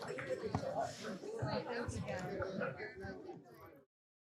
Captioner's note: people chattering; everyone clapping